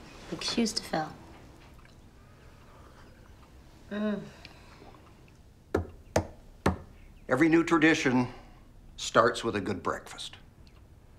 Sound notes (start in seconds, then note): 4.1 Cassie hums